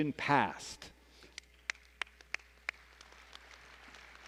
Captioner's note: applause